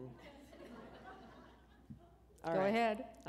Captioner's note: laughter